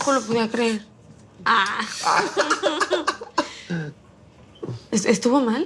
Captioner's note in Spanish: Risas